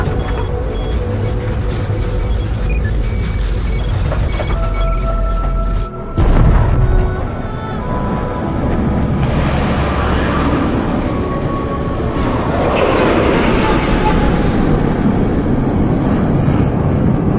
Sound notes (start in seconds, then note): 0.2 beeping continues; 6.2 thunder cracking